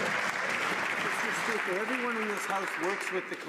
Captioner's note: some Applause